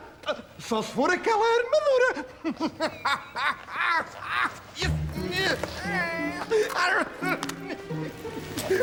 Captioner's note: chuckles, noise of steps